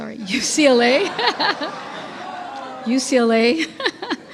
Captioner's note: laughing